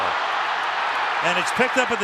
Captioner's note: crowd cheering